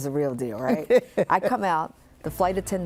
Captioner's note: laughs